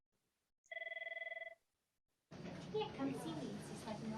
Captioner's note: phone ringing